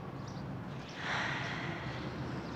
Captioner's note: exhales